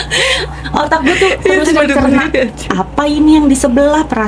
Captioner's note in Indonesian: tertawa